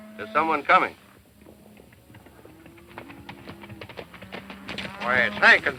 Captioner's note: galloping hooves